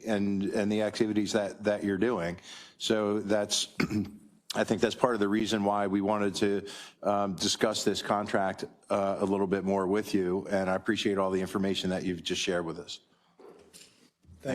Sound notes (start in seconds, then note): 3.7 cough